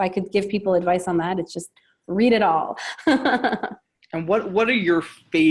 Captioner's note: laughing